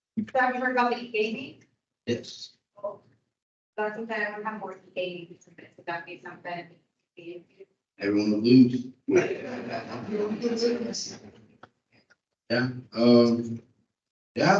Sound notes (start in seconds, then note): 9.1 crowd laughing